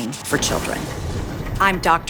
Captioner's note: thunder rumbling